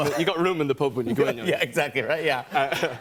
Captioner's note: laughter